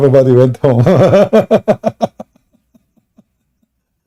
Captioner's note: Ketawa